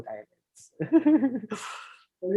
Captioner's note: laughs